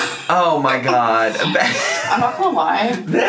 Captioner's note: laughs